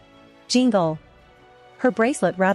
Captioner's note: jingle!